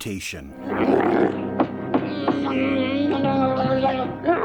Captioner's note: angry grumbles and gurgles that might be mistaken for three Wookies